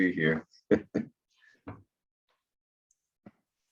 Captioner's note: chuckling